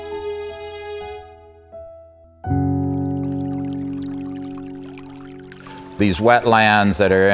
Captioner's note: trickling stream